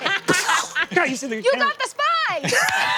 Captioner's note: mimics gunshot